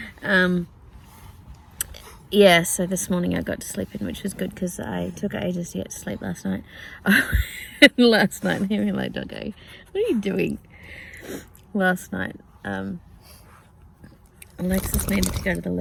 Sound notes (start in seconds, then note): 7.1 laughs; 14.6 dog shakes head loudly